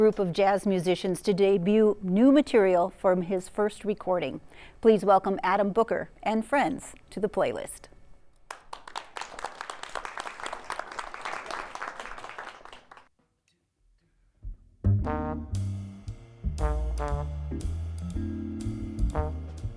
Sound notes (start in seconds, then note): 8.4 applause